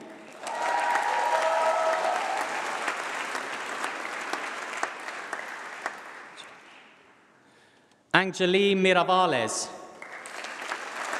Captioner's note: applause